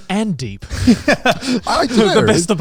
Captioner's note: laughs